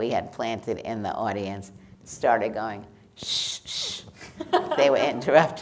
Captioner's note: hushing